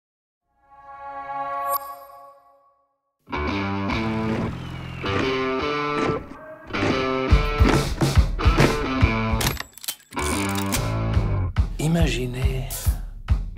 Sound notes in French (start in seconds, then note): 3.0 musique rock; 9.4 déclic et tintement métallique